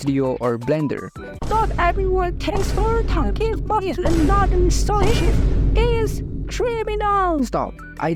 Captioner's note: complaining